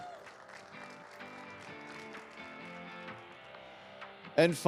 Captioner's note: audience cheering; audience applauding